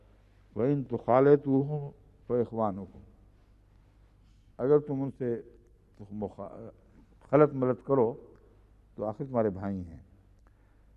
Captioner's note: Arabic